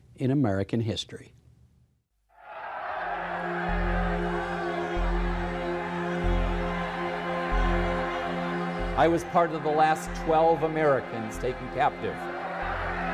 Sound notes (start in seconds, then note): 2.4 shouting; 4.4 somber music